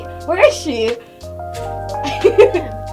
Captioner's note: chuckling